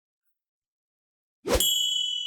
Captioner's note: sign swooshes; bell dings